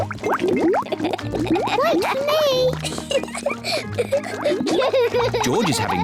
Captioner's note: laughs; both laugh